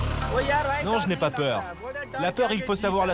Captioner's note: foreign language spoken